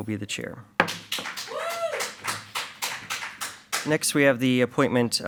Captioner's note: audience applauds